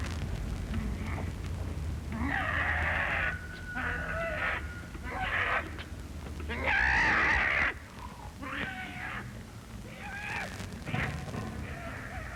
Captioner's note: animal-like grunting